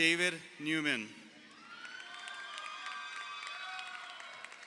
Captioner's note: crowd cheering